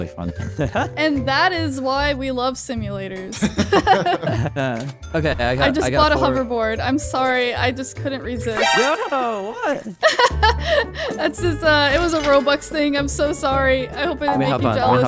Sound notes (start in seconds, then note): 0.3 laughing happily; 3.3 laughing amusingly; 8.6 laughing amusingly